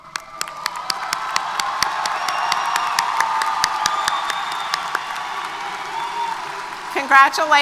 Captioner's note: applause & Cheers